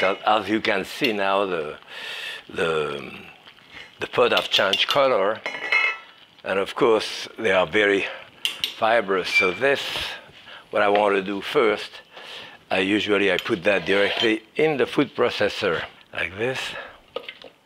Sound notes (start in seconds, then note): 5.4 lid clatters; 5.4 spoon clinks